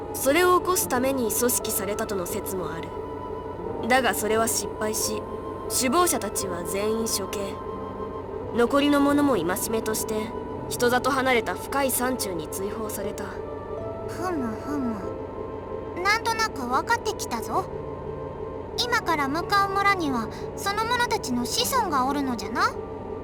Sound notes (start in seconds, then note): 14.0 interested hums